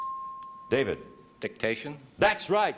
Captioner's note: chimes